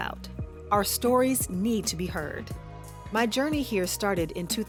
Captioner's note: none